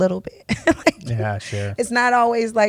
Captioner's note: laughs